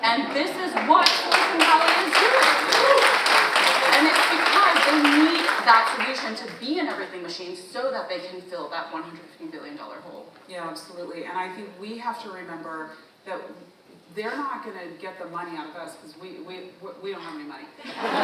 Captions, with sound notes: And this is what Silicon Valley is doing. (audience applauding) (audience member cheers) And it's because they need that solution to be in everything machine so that they can fill that $150 billion hole. - Yeah, absolutely. And I think we have to remember that they're not gonna get the money out of us, 'cause we don't have any money.